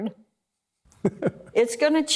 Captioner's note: laughter